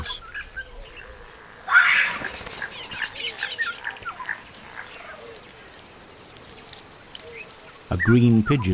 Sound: birds chirping

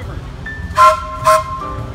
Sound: train toots twice

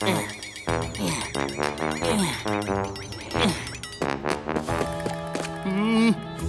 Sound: grunting

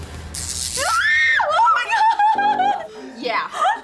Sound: electricty crackles; screams

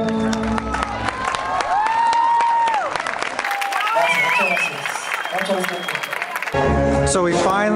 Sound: applause and cheers

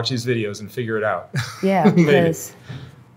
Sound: chuckles

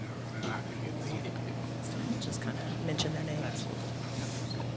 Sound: faintly speaking

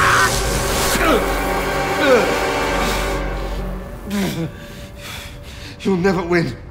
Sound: electrocution and pained screaming; pained grunts

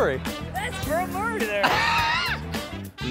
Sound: laughing

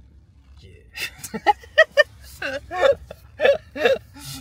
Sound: embarrassed giggles

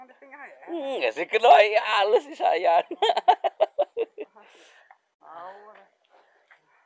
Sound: laughs

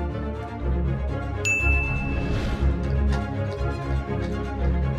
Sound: dinging

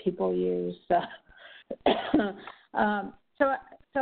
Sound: coughs

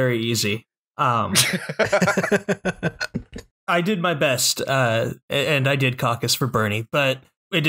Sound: laughter

